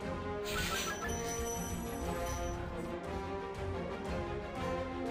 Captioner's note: video game sound effects